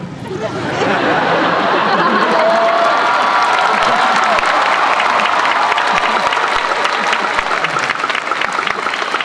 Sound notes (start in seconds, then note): 0.2 laughter; 1.7 applause